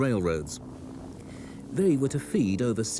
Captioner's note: planes buzz